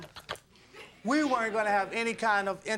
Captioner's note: audience laughing